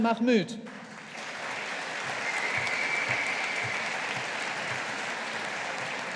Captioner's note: audience applauding